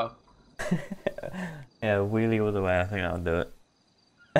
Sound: chuckles

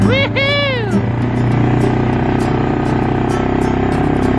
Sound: cheering

